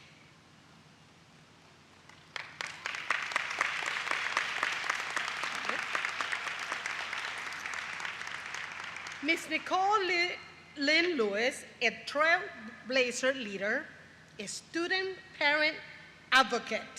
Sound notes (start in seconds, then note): 5.8 applause